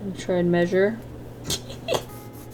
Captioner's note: giggles